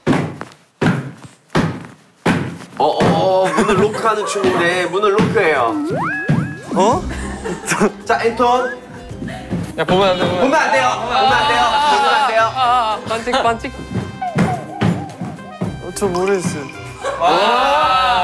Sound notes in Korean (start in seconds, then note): 0.8 쿵 / 쿵 / 쿵 / 쿵